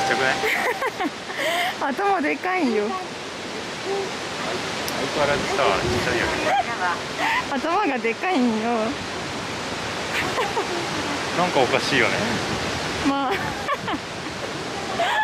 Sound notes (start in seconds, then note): 3.1 laughs